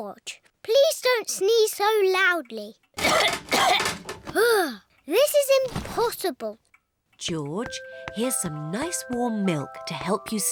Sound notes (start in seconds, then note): 3.0 coughs